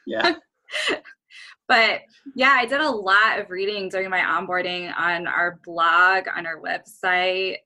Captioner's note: chuckle